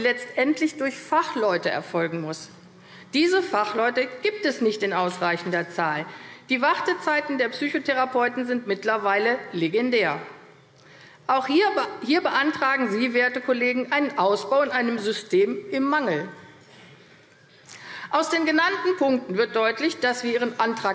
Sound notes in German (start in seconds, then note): none